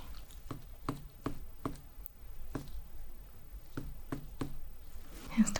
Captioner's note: tapping sounds